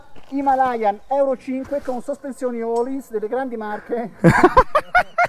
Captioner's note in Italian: Risate